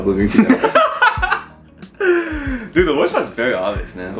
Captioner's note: laughing